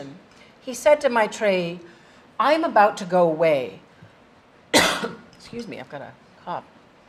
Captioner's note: cough